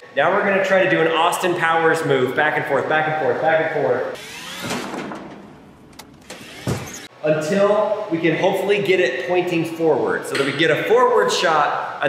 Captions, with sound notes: Now we're gonna try to do an Austin Powers move back and forth, back and forth, back and forth. (cart whirring) Until we can hopefully get it pointing forward so that we get a forward shot